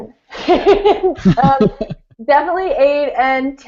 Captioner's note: laughing